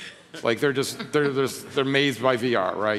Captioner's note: chuckling